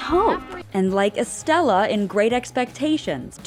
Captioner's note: yells